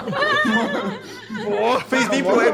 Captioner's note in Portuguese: todos riem